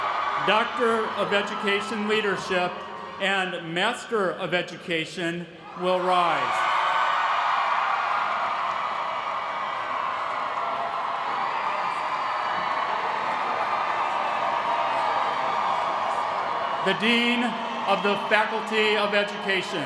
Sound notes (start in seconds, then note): 0.0 applause; 6.5 applause